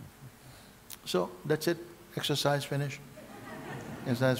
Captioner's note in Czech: smích